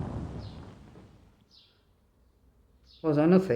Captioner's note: birds chirping